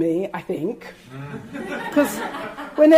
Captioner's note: audience laughing